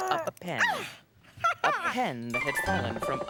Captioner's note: laughs